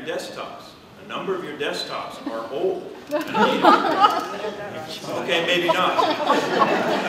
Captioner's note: laughter